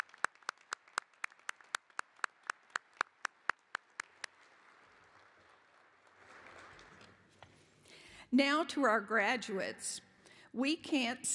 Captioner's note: applause